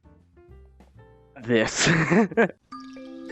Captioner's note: laughs